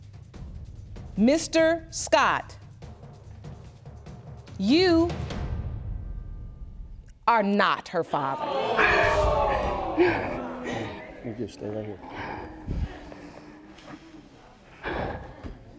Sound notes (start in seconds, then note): 8.2 audience gasps; 8.3 sobbing